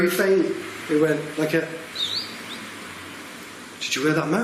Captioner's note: whistling softly